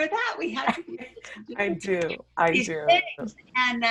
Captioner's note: laughing